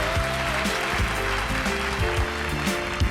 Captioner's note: applause